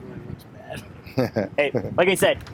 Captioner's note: laughing